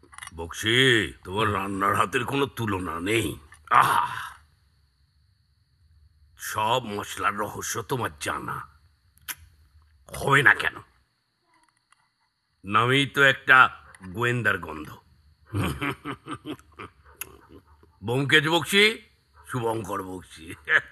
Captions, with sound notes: Bakshi, you're a very good cook. You're aware of all the secret spices. Why won't you know? You share your surname with that of a renowned sleuth. (Laughs) Byomkesh Bakshi. Shubhankar Bakshi.